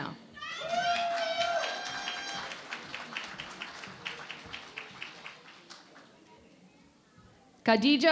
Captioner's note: cheering and Applause